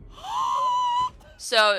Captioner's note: gasp